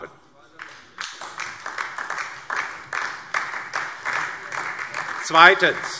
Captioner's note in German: Beifall DIE LINKE und vereinzelt SPD